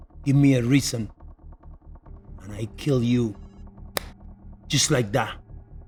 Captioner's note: fingers snaps